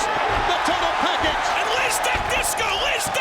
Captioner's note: audience cheering